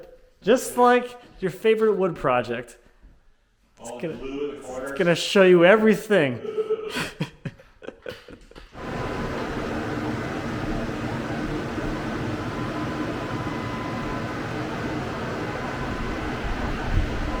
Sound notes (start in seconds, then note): 6.2 both laughing